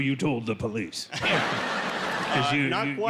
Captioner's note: laugher